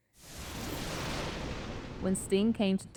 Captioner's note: thunder rumbling